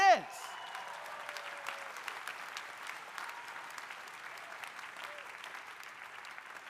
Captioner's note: audience cheering; audience applauding